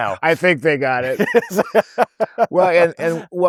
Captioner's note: laughing